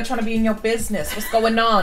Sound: laughs

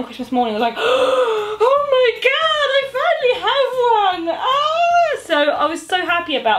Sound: gasps

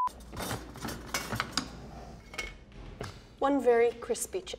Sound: beeps

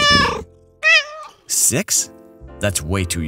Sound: meow

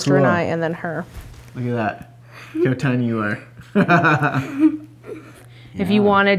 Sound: laughs

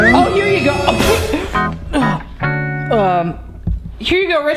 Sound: sneezes

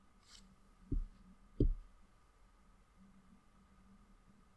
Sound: Paul knocking on glass

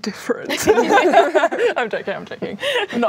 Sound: laughing

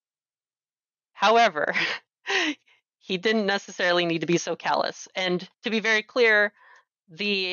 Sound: laughs

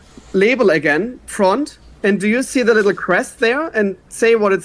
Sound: none

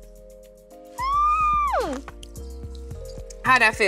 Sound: squealing

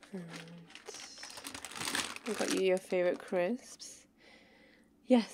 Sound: bag rustling

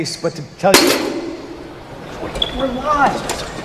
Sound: metal clanging

